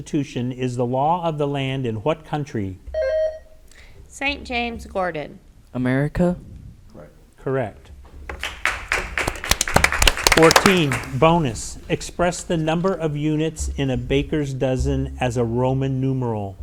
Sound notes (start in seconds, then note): 3.0 bell rings; 8.3 audience applauds